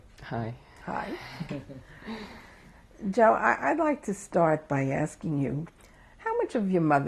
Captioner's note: laughter